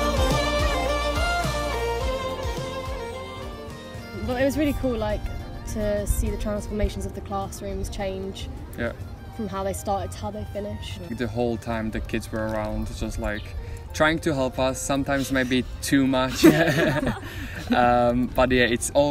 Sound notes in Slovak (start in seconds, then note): 16.3 hahah